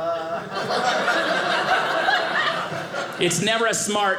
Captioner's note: audience laughing